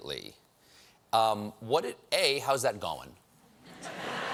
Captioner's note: laughter